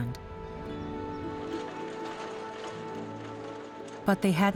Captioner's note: carriages clattering